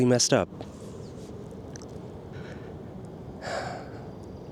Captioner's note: sigh